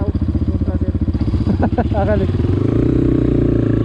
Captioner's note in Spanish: risas